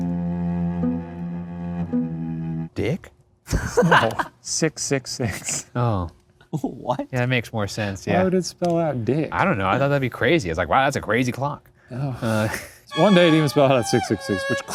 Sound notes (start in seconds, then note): 3.5 laughs; 12.3 sighs